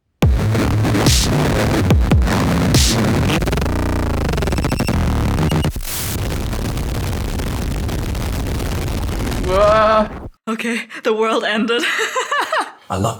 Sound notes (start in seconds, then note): 5.6 beocmes glitchy noise mess; 11.9 laughing